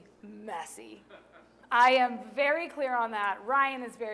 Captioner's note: laughter